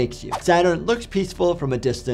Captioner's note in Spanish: transición silbante